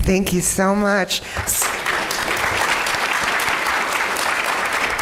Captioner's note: applause